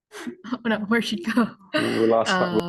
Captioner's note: chuckles